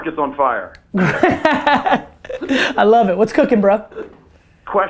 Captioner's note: laughs